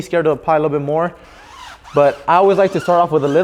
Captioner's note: tire squeaking